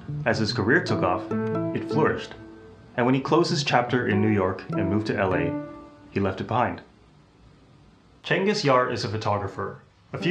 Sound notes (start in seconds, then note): 7.1 beat